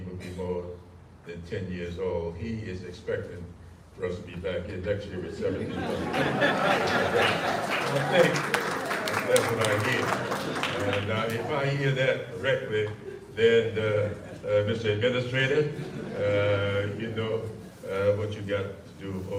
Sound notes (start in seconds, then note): 7.9 audience laughter